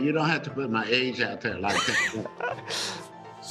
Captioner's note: reporter laughs